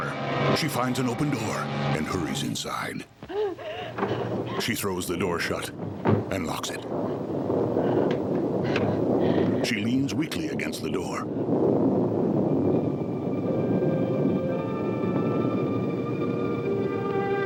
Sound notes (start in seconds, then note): 3.9 door thudding; 6.1 Barbra panting; 8.5 thunder rolling; 12.3 eerie music